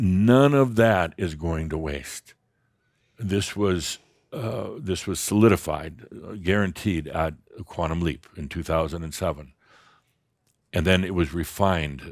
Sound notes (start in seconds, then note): none